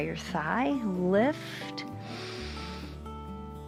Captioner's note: inhales